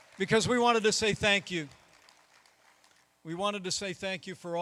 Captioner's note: applause